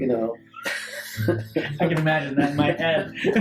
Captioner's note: laughing